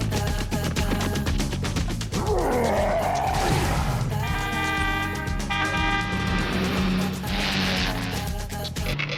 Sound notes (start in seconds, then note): 2.2 monster roars; 3.9 horn honks